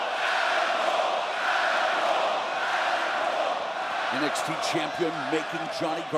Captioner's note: crowd cheering